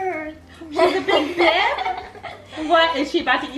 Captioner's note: laughing